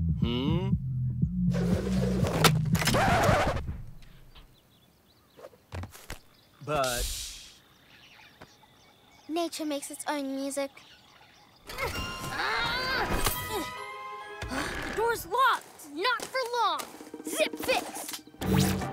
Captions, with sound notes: Hmm? - But... - Shh! (Birds chirping) Nature makes its own music. (Grunting) - Ugh, the door's locked. - Not for long! Zip Fix!